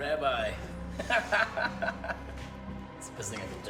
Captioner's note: Dobbs laughs